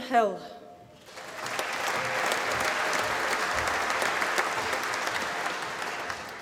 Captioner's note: applause